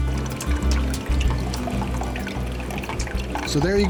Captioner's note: water trickling